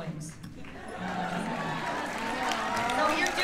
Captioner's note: cheers and applause